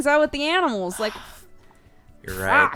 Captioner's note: sighs; cry